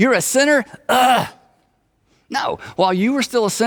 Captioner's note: exclaims loudly